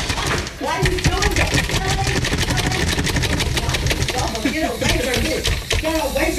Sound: laugh

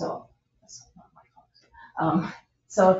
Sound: people speak distantly

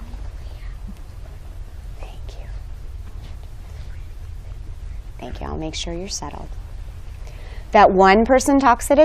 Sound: whispering

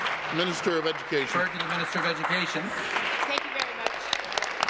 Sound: applause

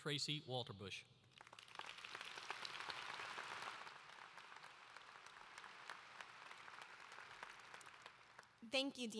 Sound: applause

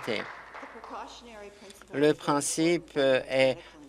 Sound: applause

